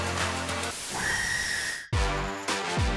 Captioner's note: scream sound effect